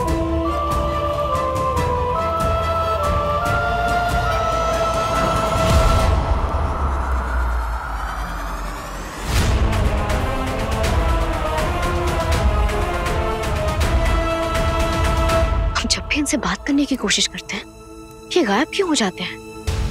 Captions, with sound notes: [wind whooshing] Whenever I try to talk to him, why does he disappear?